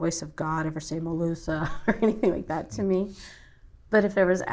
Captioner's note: laughs